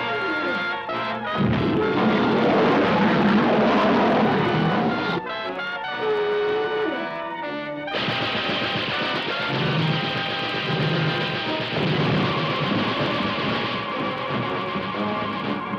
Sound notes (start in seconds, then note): 1.4 lion roaring; 8.0 machine gun fire